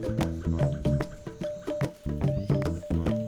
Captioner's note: birds chirping